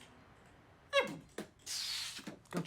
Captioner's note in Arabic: بيتبوكس